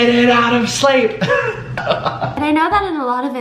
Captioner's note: laughs